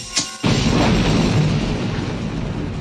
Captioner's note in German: Knall